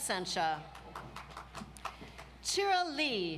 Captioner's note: audience applauds